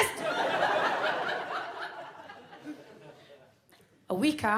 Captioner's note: audience laughs